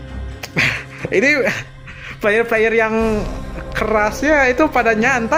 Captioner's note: laughs